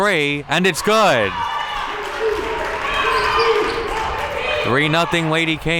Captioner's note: audience applauds